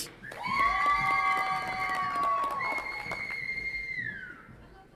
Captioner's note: audience applauds and cheers